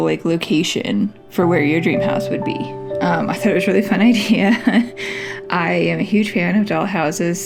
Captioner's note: laugh